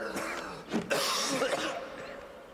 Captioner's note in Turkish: Öksürüyor